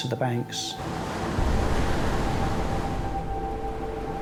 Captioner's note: waves crashing